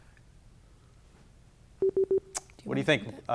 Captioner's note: buzzer beeping